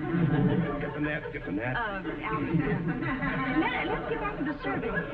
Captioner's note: audience chuckling